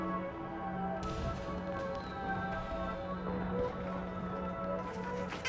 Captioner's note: fireworks crackling